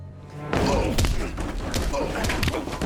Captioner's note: punch; punching; stomp